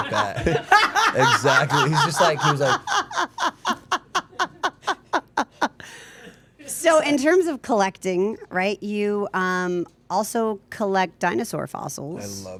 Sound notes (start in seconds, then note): 0.0 laughing